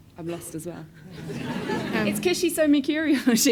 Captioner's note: audience laughs